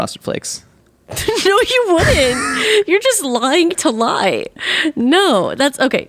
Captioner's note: laughs